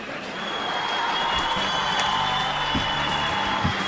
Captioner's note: cheers and applause